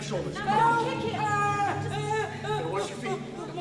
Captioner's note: screaming